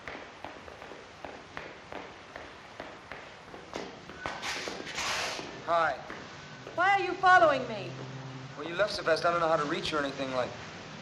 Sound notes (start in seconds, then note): none